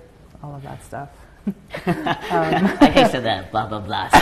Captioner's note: both laugh; both laugh again